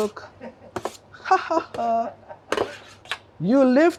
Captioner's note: laughs